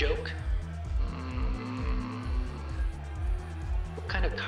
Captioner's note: groaning